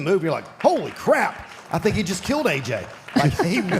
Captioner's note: audience applauding